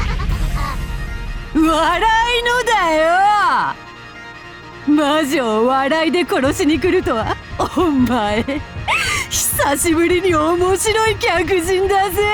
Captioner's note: cackle